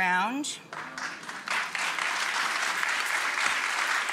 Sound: audience applause

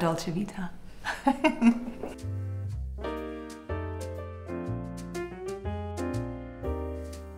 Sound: Claudia laughing; lively music

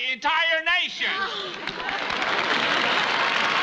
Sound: Viv sighs; applause

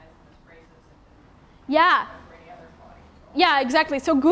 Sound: audio fades away

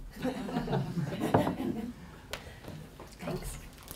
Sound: laughter

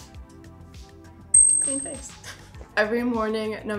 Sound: bell dings

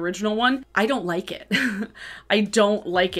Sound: chuckles

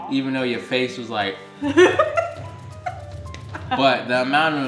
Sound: laughing

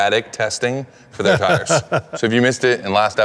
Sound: Ken laughing

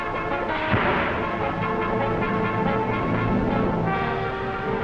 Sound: chemicals exploding

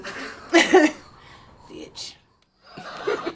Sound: both laugh

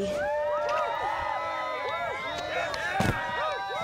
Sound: all cheer

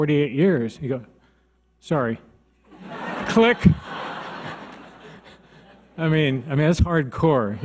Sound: audience laughs

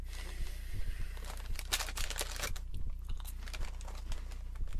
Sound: ASMR continues

